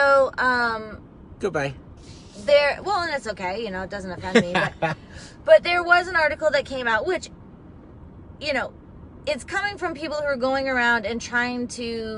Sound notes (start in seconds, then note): 4.2 laughing